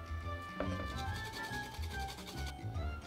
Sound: grating

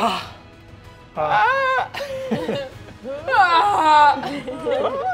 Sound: players yelling

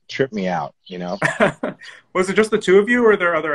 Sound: laughs

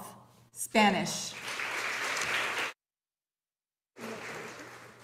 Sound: audience applauding

